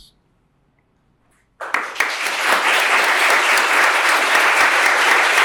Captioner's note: applause